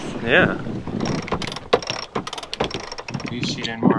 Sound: ratcheting

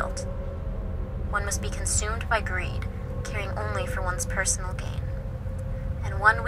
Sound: woman on phone

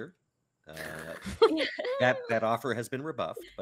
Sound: laughs

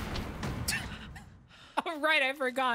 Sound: laugh

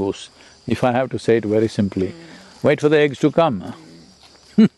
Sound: laughs

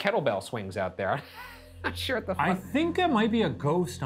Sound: laughs

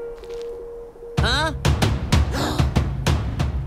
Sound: drumbeat; all gasping

